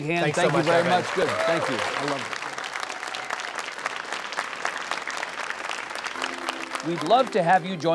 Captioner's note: audience applauds